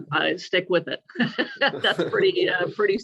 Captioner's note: laughter